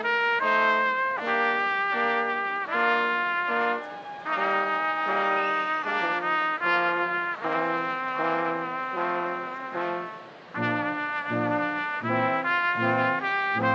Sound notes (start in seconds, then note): 0.0 upbeat orchestral music continues; 5.4 crowd cheering